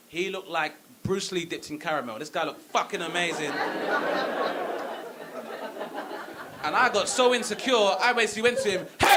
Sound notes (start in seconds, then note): 3.0 audience laughing